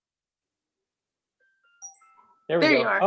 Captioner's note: computer chiming